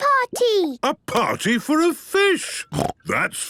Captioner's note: snorting